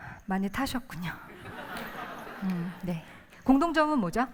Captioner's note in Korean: 웃음